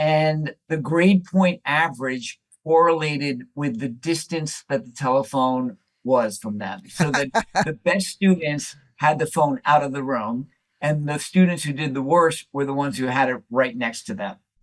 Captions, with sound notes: and the grade point average correlated with the distance that the telephone was from them. [Laughter] So the best students had the phone out of the room, and the students who did the worst were the ones who had it right next to them.